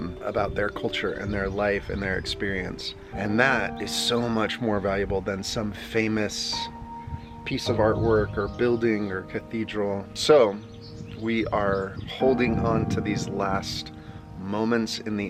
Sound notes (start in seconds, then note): none